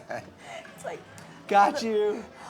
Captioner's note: laughing